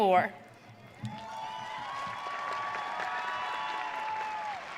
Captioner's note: audience cheering